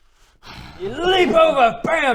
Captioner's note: growl